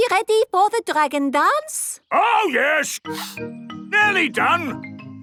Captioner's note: sniffing